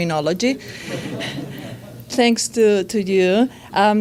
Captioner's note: audience laughs